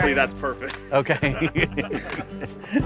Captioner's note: laughing